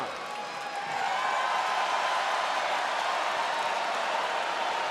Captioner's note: spectators cheering